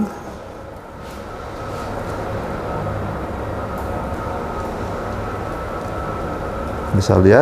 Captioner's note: printer machine noise